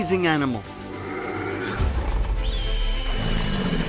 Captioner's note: cat snarling; animals vocalizing